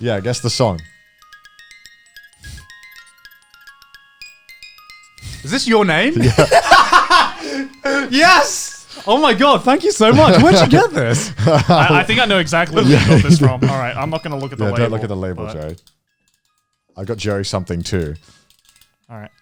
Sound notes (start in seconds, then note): 1.4 bell chiming; 6.2 chuckling; 10.1 chuckling; 15.4 music box winding